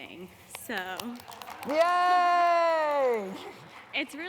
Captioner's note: applause